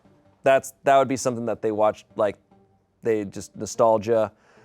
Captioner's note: none